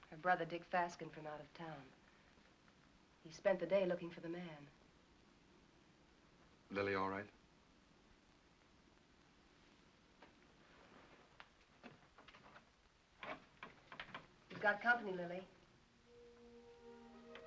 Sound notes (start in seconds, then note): 13.2 door opens; 16.0 soft music